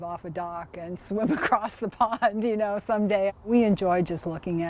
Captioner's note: laughs